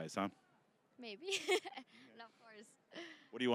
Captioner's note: laughing